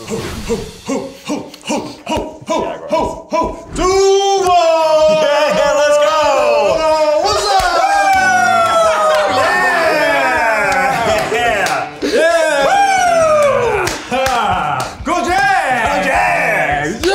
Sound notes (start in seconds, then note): 0.0 Eugene hoots; 7.8 group laughs; 8.0 group cheers